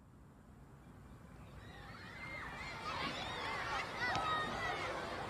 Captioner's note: children shouting excitedly